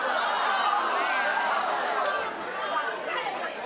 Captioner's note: audience uproar